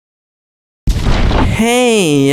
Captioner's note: explosion